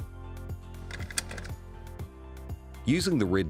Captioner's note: belt buckle clicks